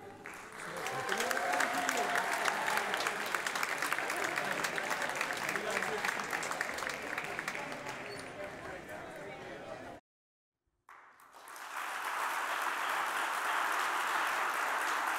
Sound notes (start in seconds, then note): 0.0 audience cheering and applauding; 5.1 audience chattering; 10.9 audience applauding